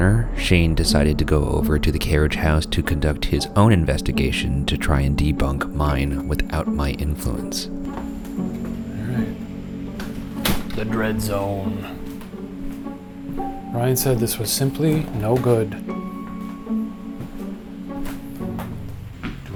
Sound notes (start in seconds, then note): 9.9 door clicking; 15.8 spooky pensive music